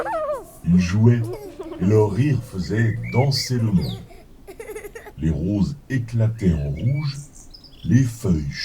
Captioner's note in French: rires